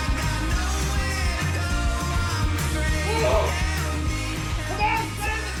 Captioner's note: Moe and Howie screaming